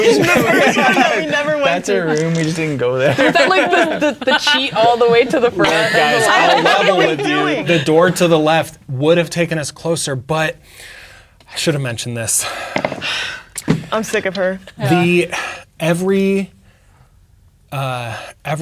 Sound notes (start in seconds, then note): 4.0 others talking and laughing; 12.5 sighs